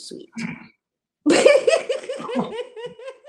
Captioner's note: laughter